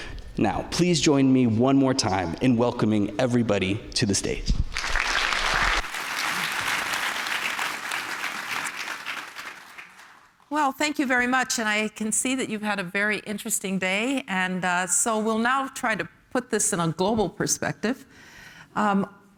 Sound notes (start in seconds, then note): 4.7 applause